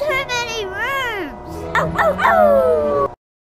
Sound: howling noises

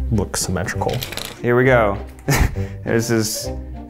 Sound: laughs

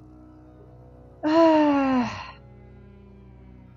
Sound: heavy sigh

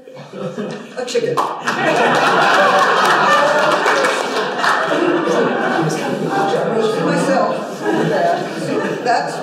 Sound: laughter

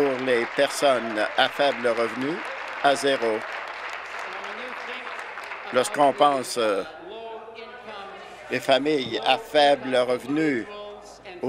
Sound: applause

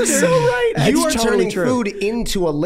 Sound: laughing

